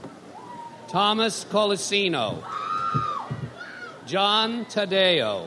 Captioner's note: audience member screams